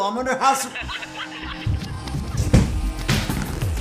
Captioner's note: laughter